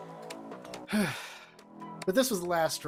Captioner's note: sighs